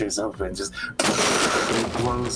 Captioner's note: tshhhhhhh